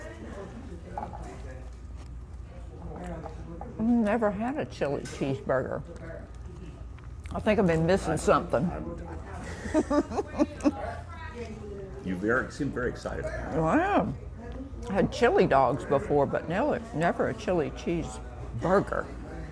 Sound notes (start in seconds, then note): 9.4 laughs